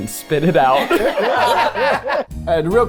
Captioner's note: everyone laughing